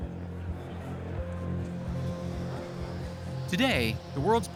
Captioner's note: crowd chattering